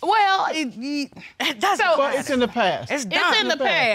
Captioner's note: hesitatingly